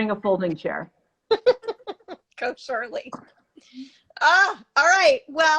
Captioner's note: laughs